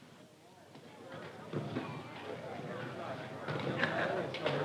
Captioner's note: crowd chattering